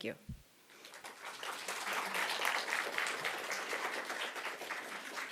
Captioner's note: applause